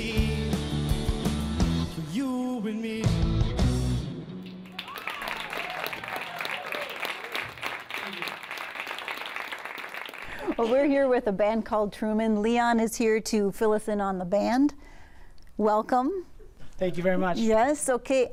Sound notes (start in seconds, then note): 4.4 cheering and applause